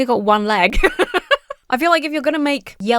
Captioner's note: laughs